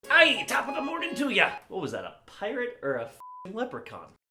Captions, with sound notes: *over-the-top Irish accent* Aye top of the morning to ya! What was that a pirate or a f***ing leprechaun?